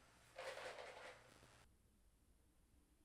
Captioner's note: food rattles